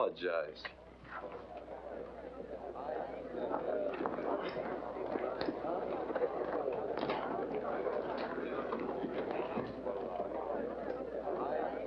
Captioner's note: background chatter